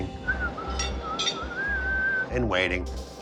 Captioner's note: whistling